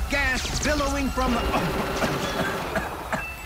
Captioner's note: people screaming; coughing